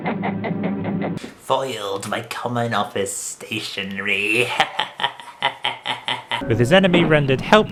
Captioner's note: laughs wickedly; laughs wickedly